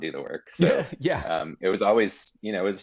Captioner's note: chuckling